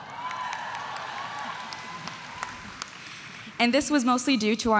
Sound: audience cheering

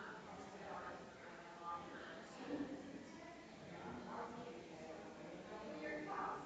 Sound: people chattering distantly continues

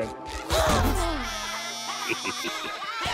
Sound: Mr. Krabs chuckling

